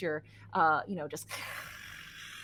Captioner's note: hisses